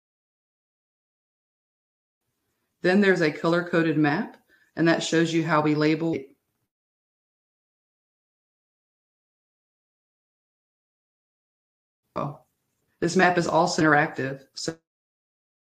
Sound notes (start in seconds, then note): 6.2 audio cuts out